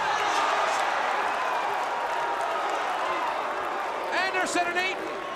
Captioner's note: crowd cheering